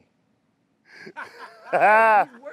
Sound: group laughing

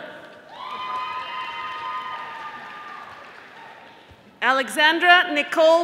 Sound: audience applauding

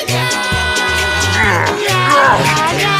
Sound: groans

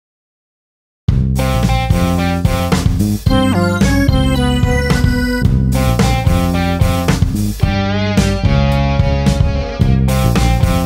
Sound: scary sound

